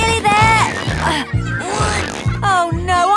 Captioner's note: grunting